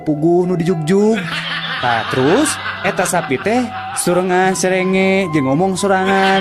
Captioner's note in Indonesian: tertawa